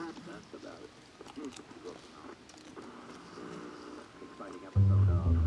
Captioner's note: crunching; strange radio sounds